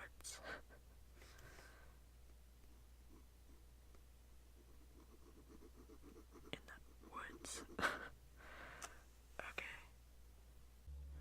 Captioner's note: scribbling pen